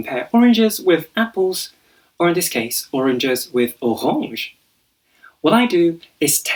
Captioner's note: in a French accent